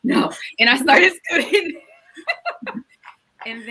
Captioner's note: laughs